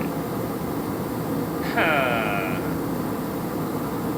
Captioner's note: haah